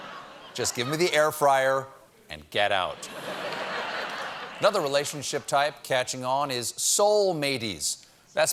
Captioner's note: laughter